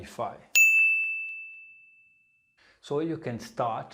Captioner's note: pinging sound